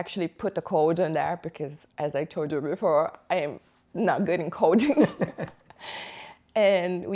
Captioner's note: laughter